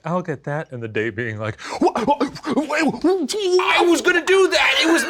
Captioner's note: Shane stammers